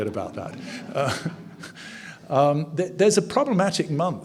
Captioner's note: audience chuckles